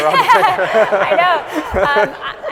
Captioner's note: audience laughing